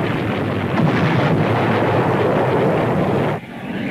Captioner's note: explosions booming; plane engines roaring